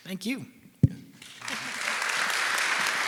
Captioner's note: audience applauding